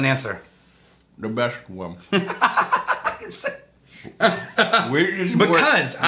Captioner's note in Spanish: Riéndose